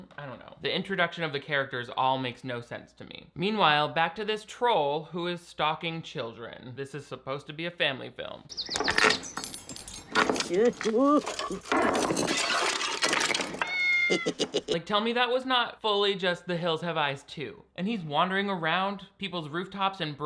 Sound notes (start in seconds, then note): 10.6 Finn stammering; 10.6 rocks clattering; 12.7 tile shattering; 13.6 cat meowing; 14.0 Finn giggling